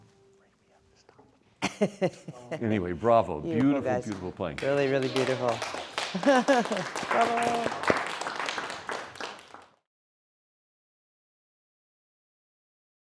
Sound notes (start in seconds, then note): 0.2 whispers; 1.6 laughter; 5.8 audience applauding; 6.0 laughs